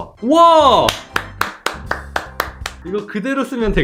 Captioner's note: applause